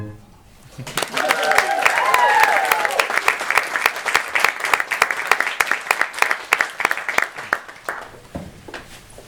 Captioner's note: applause